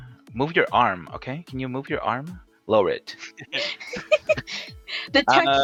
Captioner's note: they all laugh